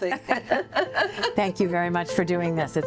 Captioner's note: laughter